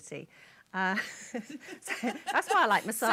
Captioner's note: laughter